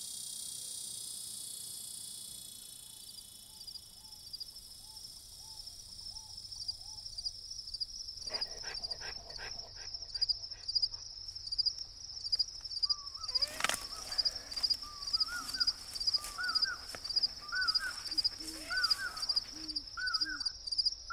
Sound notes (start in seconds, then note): 8.2 panting; 12.4 chirping crickets; 12.8 owls hooting and calling